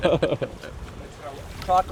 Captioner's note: laughter